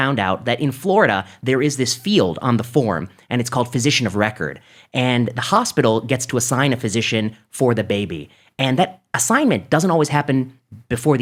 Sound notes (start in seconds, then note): none